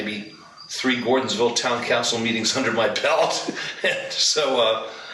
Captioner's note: laughs